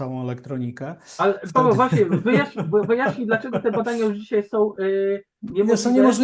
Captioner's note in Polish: śmiech